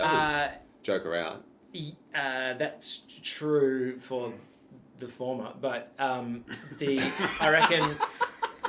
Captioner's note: all laugh